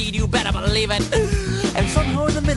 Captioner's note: big inhale